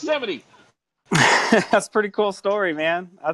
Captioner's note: laughs